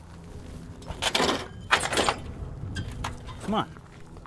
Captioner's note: wheelbarrow clatters